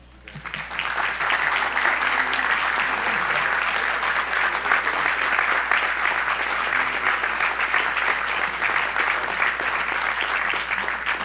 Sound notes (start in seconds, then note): 0.8 audience applause